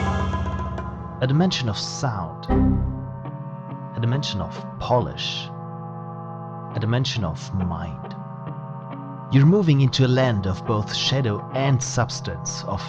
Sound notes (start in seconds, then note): 2.5 windows error sound